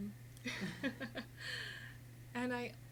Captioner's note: laughing